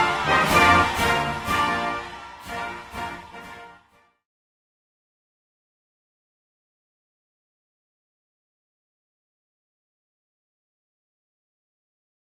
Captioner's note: applause